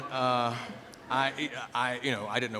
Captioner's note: laughter